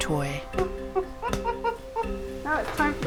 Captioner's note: chimp sounds